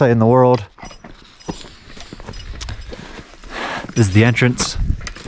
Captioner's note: metallic clinking; feet shuffling